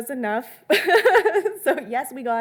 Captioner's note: laughing